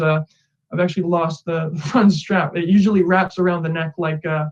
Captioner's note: laughing